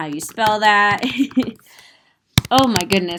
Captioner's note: giggling